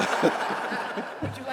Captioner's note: laughter